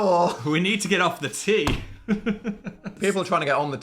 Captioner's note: laughing